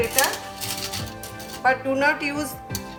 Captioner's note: graters scraping